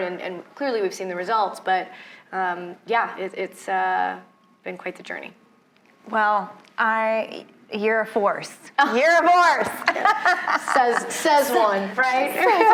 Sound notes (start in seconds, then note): 9.6 laughs